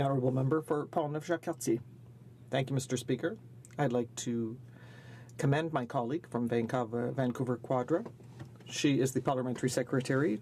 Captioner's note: speaking French